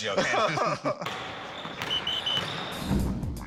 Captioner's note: both laugh